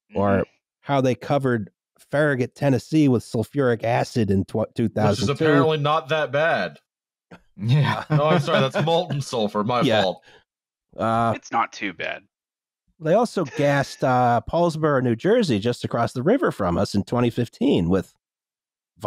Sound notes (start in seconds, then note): 7.7 laughter